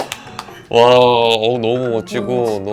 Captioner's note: impressed